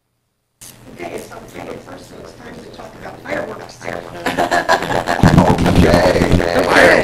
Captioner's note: laughter